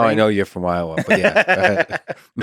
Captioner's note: Tim laughs